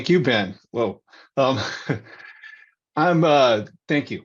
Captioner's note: chuckles